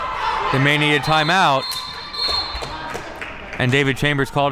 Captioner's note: whistle blows